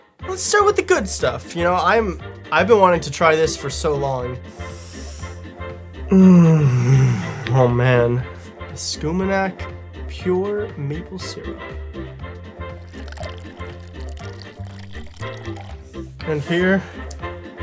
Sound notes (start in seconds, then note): 4.5 deep inhale